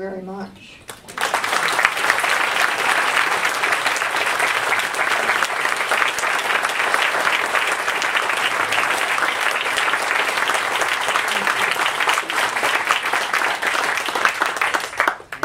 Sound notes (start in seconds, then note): 0.9 audience Applauds